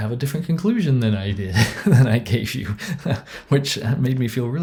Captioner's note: laughs